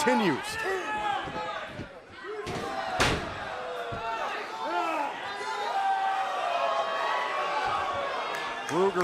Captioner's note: crowd cheering